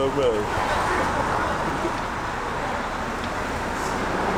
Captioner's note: traffic passing